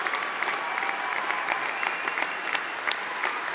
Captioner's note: applause